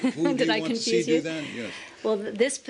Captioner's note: laughter